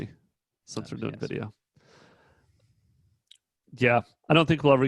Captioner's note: speaking faintly